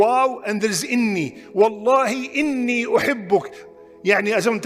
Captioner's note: Arabic